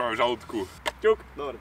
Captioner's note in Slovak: zvuky vzájomnej kolízie dvoch vrchnákov od zmrzliny